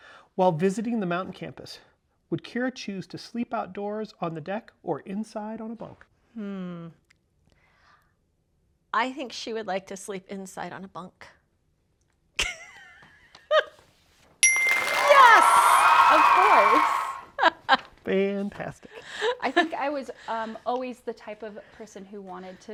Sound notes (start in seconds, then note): 12.3 laughing; 14.4 chime; 14.4 audience cheering